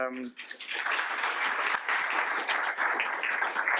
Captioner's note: applause